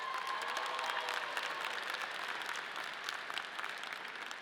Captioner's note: audience applauding